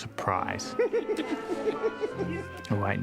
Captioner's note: giggling